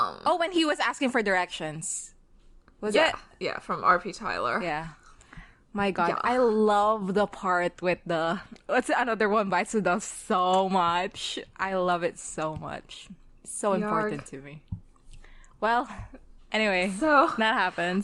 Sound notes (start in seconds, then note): none